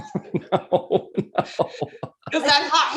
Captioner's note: laughs